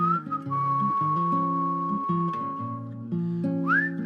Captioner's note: whistling